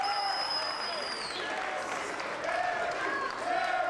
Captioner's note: crowd chants